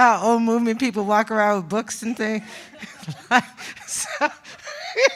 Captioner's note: laughs